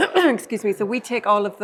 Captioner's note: clears throat